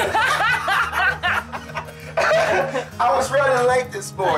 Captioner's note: lalaugughthterer